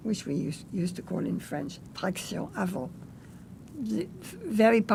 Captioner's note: french